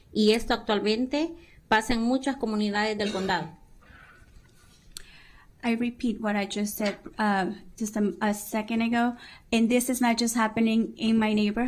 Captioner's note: speaking spanish